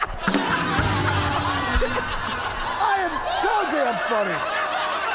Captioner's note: crowd chatter